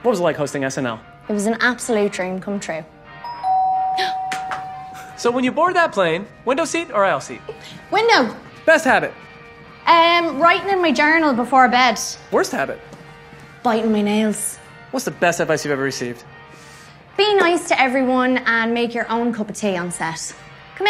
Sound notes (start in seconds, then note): 3.2 door rings; 4.1 gasps